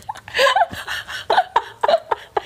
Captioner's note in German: beide lachen